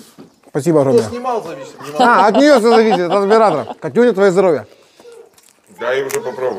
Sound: laughter

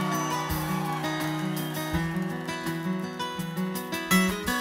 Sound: audience cheers

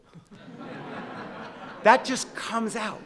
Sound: audience laughing

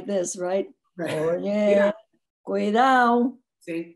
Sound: speaks in foreign language

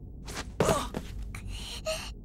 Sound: pained groan

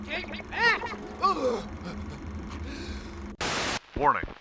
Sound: groans

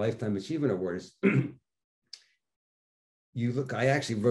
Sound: clearing throat

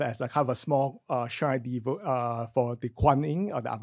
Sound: foreign speech

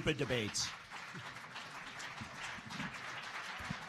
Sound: applause

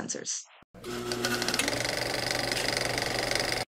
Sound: old-fashioned camcorder noise

